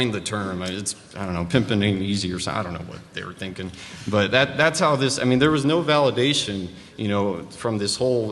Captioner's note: laughter